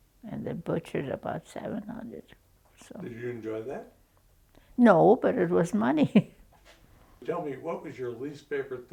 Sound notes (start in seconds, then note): 6.6 chuckles